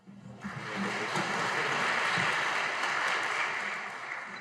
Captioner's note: audience applauding